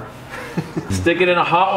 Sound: laughing

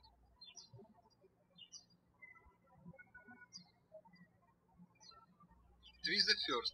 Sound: birds chirping

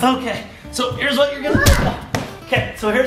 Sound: thuds

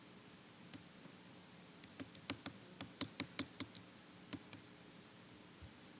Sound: keyboard keys clacking

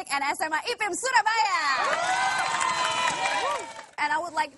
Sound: speaking indonesian; applause

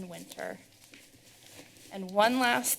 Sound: rustling sound

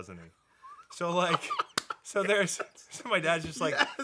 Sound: Dan laughing

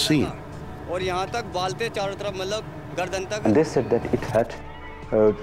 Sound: speaking in foreign language

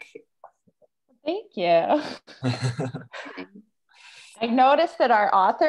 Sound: laughs

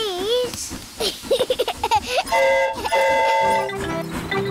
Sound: giggles; train horn toots

